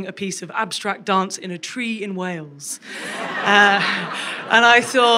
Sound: crowd laughs

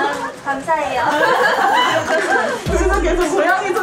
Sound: haha

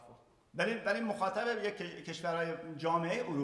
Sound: speaking in farsi

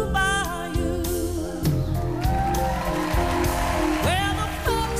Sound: cheering

